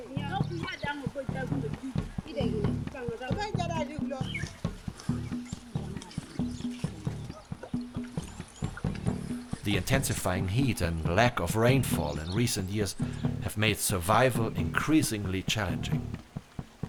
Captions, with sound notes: [PEOPLE CHATTING] [GENTLE STREAM] The intensifying heat and lack of rainfall in recent years have made survival increasingly challenging.